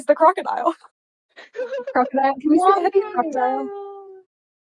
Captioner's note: exclamations of joy